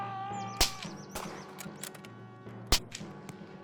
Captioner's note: shouts; guns fire